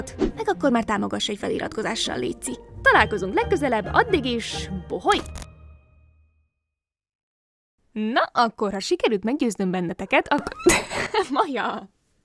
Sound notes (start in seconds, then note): 10.3 cat nyau